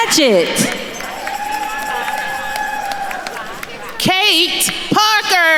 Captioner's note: attendees cheering and applauding